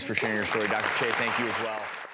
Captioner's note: applause